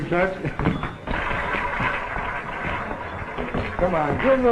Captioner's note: roulette wheel spinning